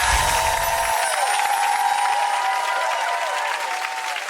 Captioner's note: audience clapping and cheering; chimes ringing